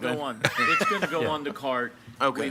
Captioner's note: laughing